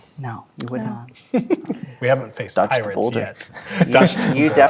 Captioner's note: laughs